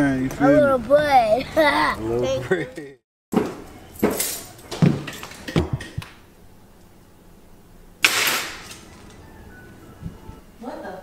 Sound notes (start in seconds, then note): 3.7 heels clacking; 8.2 keys clanging